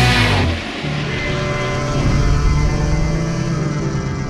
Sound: engine running

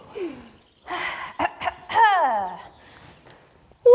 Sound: clears throat

